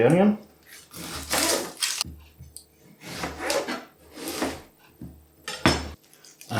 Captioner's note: cutting onion sounds